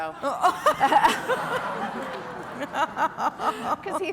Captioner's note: laughter